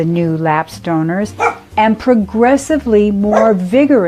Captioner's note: dog barks